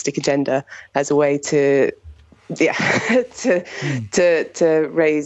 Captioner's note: chuckles